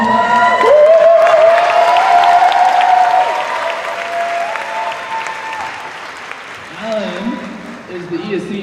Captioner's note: cheers